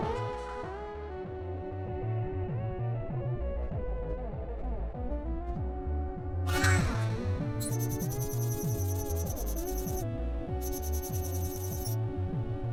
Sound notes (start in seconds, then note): 7.6 console beeps; 7.6 console chirping